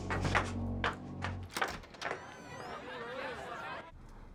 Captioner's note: door opens